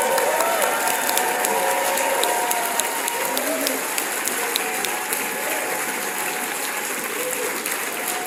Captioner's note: audience cheering